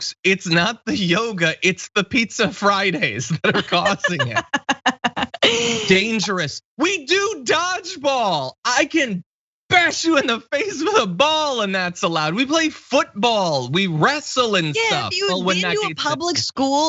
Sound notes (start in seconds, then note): 3.4 laugh